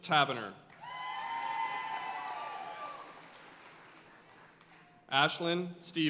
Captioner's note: audience cheering and applauding